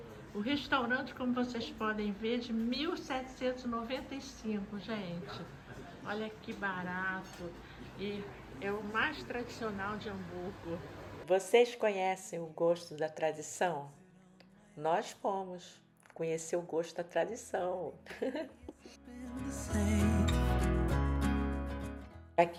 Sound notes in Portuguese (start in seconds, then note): 18.0 risos